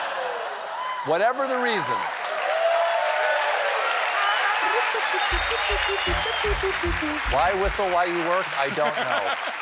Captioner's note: cheers and applause